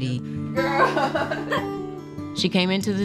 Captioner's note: laughs